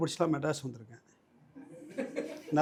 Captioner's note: audience laughs